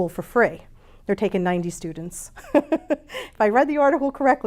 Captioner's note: chuckles